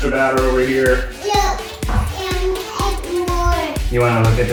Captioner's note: toddler babbles